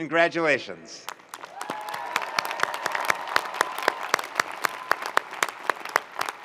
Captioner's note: audience cheering and applauding